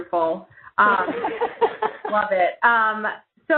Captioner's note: laughing